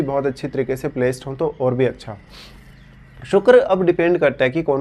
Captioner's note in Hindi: नाक से की जाने वाली आवाज़